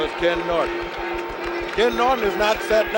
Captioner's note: bell sounds